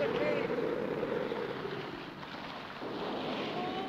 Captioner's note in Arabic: هبوب الريح